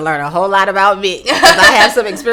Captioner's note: laughing